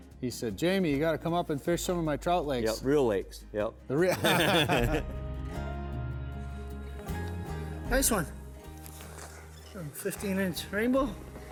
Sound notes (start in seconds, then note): 4.1 laughs; 5.5 calm music